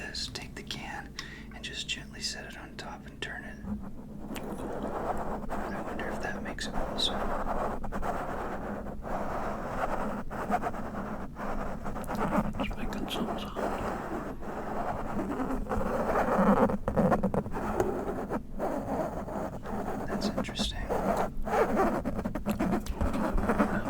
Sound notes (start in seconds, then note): 12.6 quiet whispers